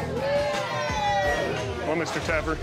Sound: crowd cheering

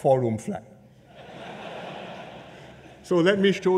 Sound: laughter

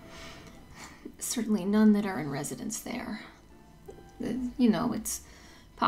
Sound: whispers

